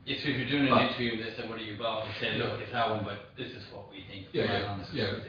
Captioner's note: audio distorts